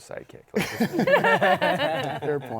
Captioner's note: laughter